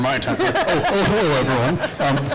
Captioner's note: laughter